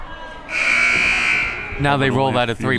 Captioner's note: buzzer